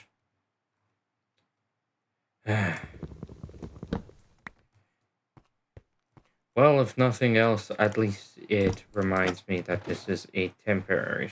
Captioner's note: sigh